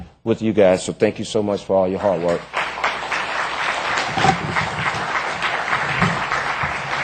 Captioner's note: applause